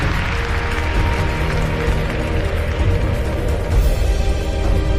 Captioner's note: audience applauds